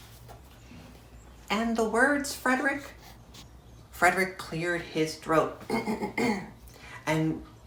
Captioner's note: clears throat